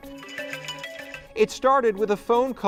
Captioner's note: phone ringing